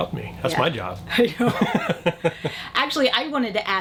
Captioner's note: laughs